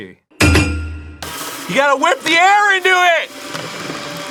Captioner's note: yelling